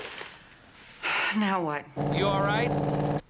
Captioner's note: sighs